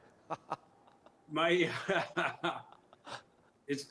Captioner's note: laughter